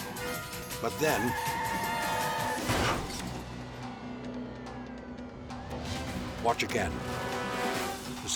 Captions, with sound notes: but then... (crash clattering) Watch again.